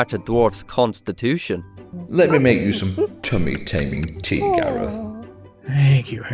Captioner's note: ape noises